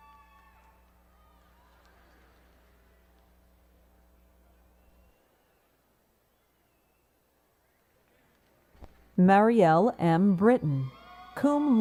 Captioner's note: audience applauds